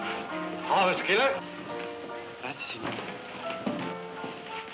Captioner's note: none